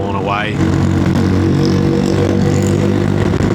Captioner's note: engine noise